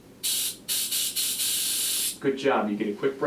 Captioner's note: air blowing